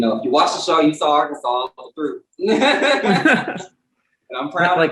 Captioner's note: laughs